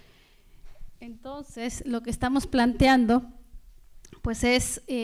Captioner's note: speaking spanish